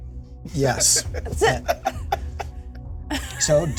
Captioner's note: laughter